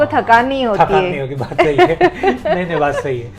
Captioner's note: laughing